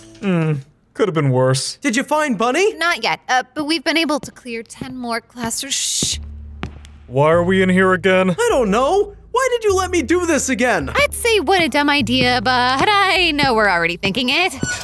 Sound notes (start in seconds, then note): 3.9 footsteps thumping